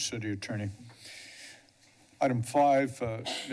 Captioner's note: breathes steadily